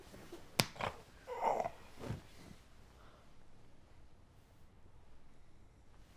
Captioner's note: hand slapping; Jim grunts